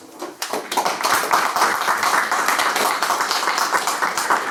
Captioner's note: applause